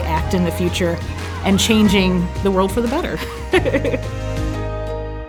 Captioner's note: laughing